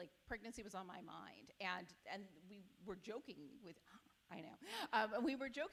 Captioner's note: none